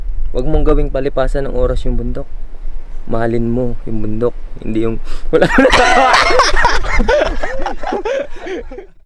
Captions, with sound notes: Don't make climbing mountains a pass time. Love the mountain. Don't— *laughs*